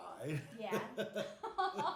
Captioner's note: laughing